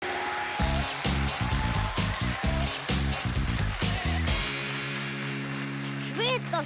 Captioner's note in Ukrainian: оплески